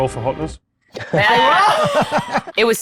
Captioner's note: chuckles